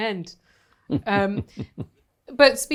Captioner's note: chuckles